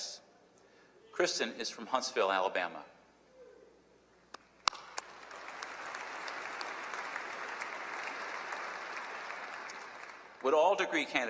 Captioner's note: applause